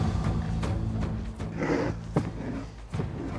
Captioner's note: rasping